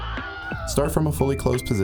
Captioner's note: screaming